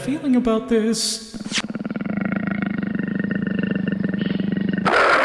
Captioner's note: tiger growling; tiger roars!